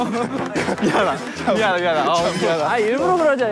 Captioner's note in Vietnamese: Cười xỉu